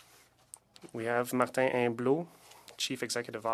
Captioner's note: speaking French